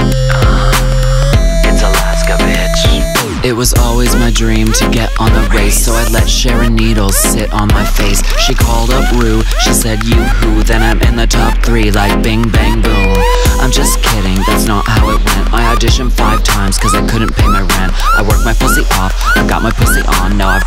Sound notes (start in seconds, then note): 13.1 bing!